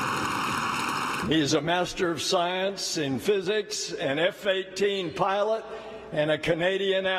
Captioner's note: cheering